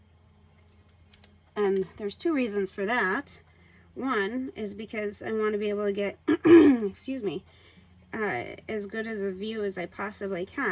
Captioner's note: clearing throat